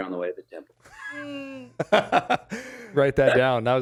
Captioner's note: laughs